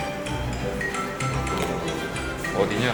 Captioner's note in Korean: 전화벨소리